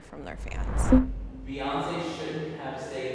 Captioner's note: electronic blip